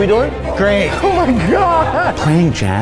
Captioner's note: laughs